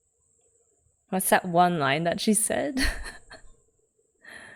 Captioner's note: laughs